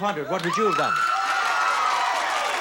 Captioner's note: audience cheering